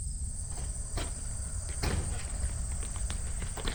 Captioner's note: door opens